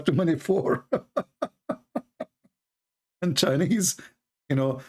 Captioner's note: Ketawa